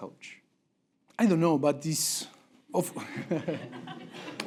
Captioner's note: laugh break